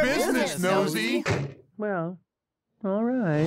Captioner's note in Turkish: kapiyi çarpar